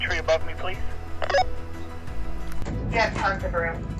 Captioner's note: radio chirps; announces on radio